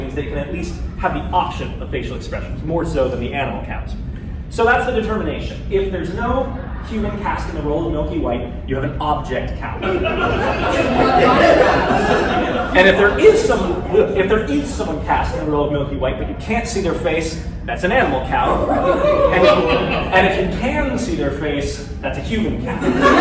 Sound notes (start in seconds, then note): 9.8 laughter; 18.3 laughter; 22.7 laughter